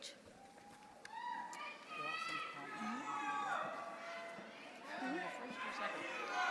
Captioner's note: audience members shouting